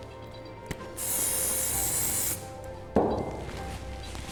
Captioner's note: spray hisses